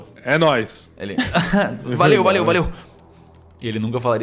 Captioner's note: laugh